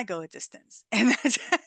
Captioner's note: laughter